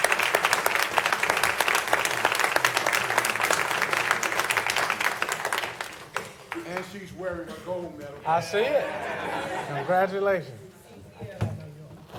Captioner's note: applause